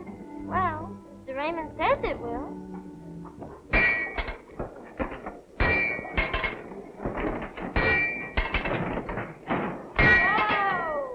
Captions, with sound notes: Well, Mr. Raymond says it will. [metal clanging] Whoa.